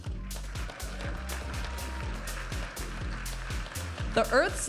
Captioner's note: audience applauding and cheering; vibrant music